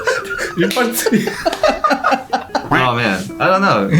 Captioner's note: laughing; laughs